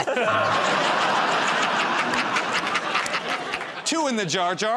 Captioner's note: laughter